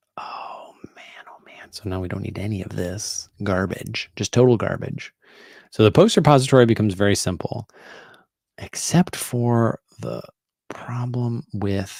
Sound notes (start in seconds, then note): none